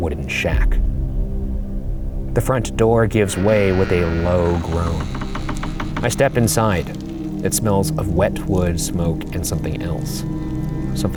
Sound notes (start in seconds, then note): 3.2 door creaking; 4.9 fire crackling